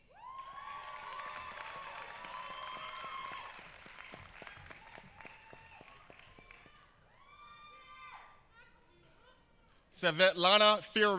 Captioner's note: applause